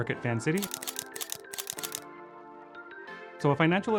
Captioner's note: camera shooting